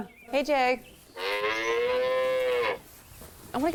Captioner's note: cow moos